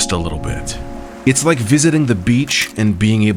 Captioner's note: waves lapping